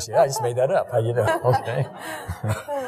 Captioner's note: laughing